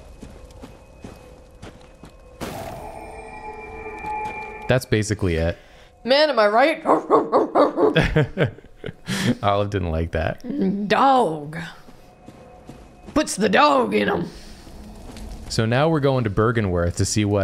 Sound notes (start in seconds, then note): 6.8 barking